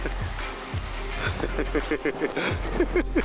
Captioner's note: laughing